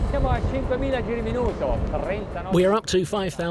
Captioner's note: speaks Italian